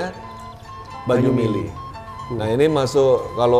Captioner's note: flowing water